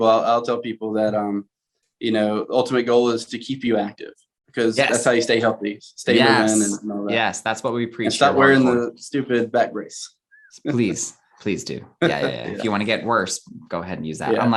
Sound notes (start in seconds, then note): 12.0 chuckling